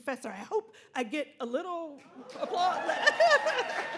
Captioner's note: audience cheers and applauds; laughs